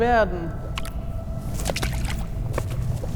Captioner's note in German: Wasserplätschern